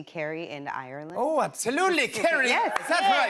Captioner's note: Irish accent